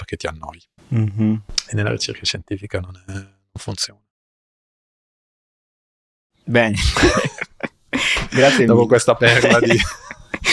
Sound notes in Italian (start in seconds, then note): 9.2 risate